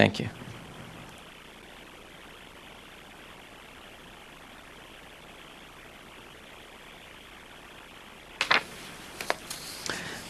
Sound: no speaking

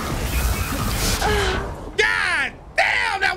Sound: Aloy groans

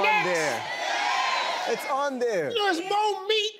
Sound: crowd

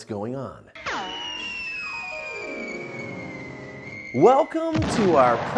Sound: graphics whistling

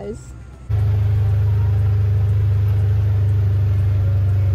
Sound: engine humming

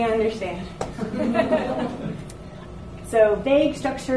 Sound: audience laughs

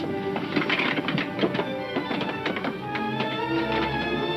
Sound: clattering

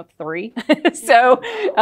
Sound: laughs

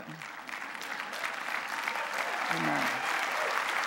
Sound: clapping

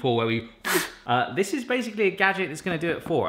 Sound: blows a raspberry

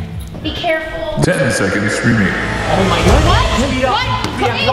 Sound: voiceover

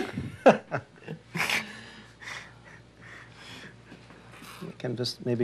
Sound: both laugh

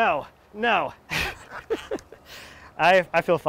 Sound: laughing

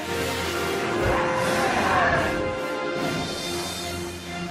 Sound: roaring

